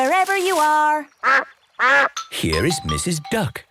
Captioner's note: quacks